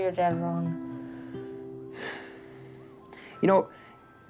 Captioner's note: exhales